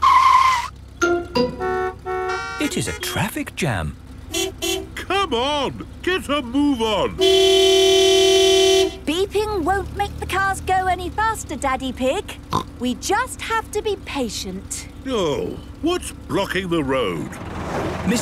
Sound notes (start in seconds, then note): 0.2 tires screeching, horns honking; 4.3 honking; 7.1 honking; 12.8 snorts